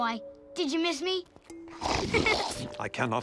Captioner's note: laughing